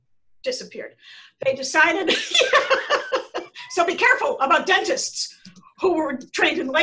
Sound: laughter

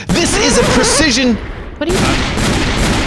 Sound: gunshots

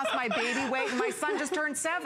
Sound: laughter

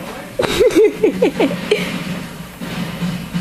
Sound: laughs

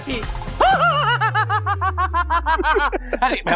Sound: laughing

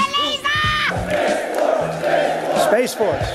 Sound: chanting

